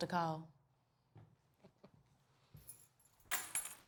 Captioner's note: Nurse Ferriman chuckles; key clatters